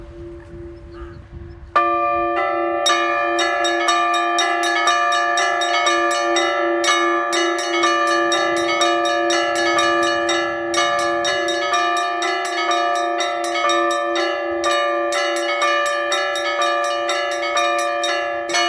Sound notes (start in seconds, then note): 1.3 bell ringing; 9.8 bell ringing